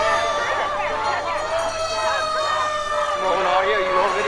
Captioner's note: sirens wail